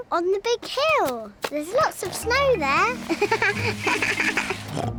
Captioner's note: bleats; laughs; snorts